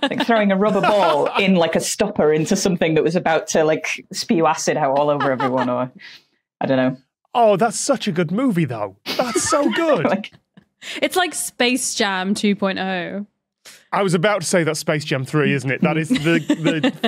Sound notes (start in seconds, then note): 9.0 guests laughing; 15.8 giggles